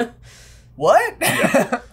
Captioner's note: laughter